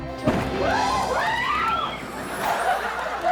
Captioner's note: kids screaming; audience laughing